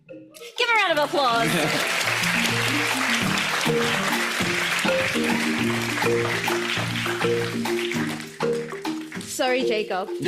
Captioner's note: audience applauds